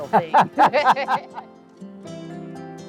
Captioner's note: laughs